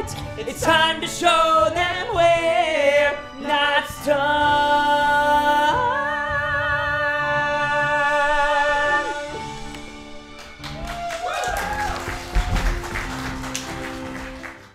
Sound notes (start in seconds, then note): 10.4 audience cheering